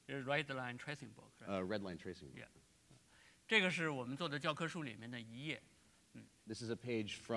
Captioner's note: speaking in Chinese